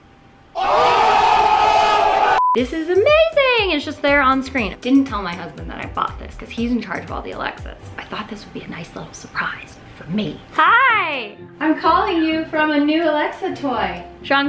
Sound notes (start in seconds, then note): 0.5 crowd cheering